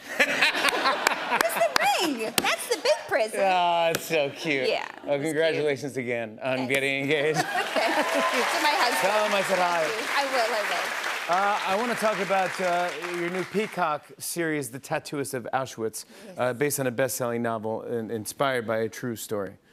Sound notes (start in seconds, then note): 0.0 laughter; 7.4 cheers and applause